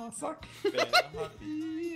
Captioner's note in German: Lachen